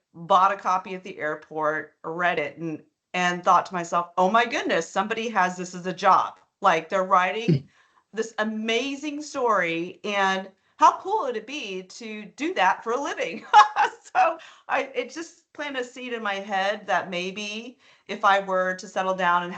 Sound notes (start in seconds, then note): 6.6 chuckling; 13.4 laughing